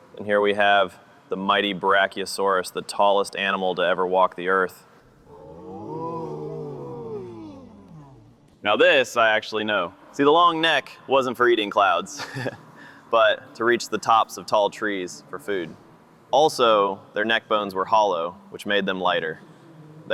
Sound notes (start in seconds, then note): 5.2 ooohs and aaaahs; 12.6 laughs